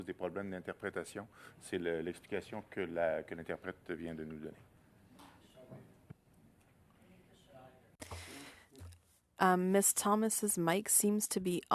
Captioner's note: speaking French